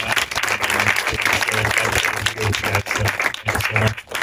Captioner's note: applause